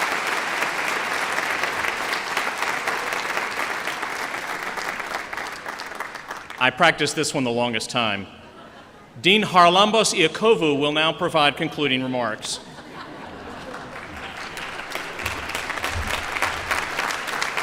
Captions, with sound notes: I practiced this one the longest time. Dean Charalambos Iacovou will now provide concluding remarks. [LAUGHTER] [APPLAUSE]